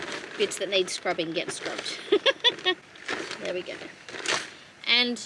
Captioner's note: chuckles